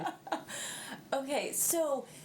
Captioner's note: laughing